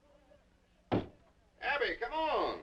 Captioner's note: door knocking